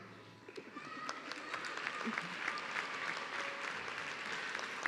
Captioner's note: audience clapping